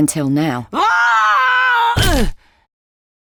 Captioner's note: Joseph screams